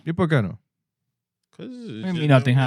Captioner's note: speaking Spanish